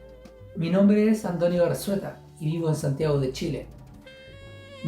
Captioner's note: foreign language